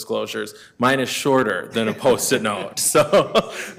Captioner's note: laughs